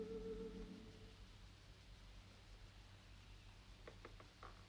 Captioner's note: birds chirping